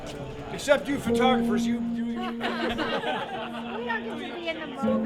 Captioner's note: crowd laughing